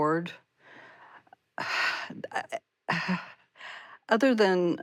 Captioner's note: sighs